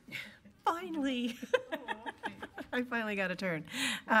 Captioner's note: laughs